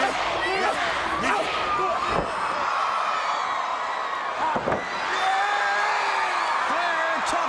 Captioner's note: crowd cheering